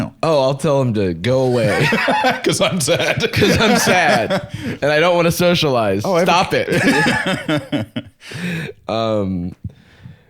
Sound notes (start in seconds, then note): 1.4 laughing; 6.0 laughs